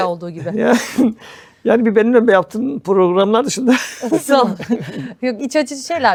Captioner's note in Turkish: kahkaha